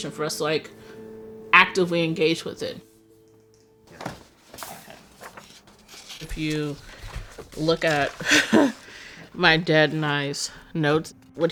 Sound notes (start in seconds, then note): 3.8 papers rustling; 7.9 laughs